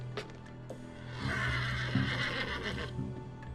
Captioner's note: horse whinnies